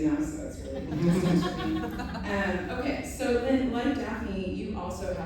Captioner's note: laughter